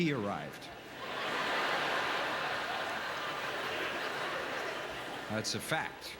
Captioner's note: audience laughter